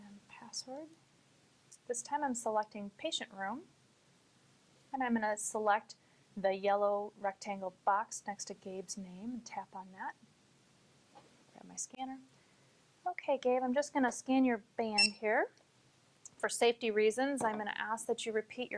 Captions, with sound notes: and password. This time I'm selecting patient room. And I'm gonna select the yellow rectangle box next to Gabe's name and tap on that. Get my scanner. Okay Gabe, I'm just gonna scan your band (beeps) here. For safety reasons, I'm gonna ask that you repeat your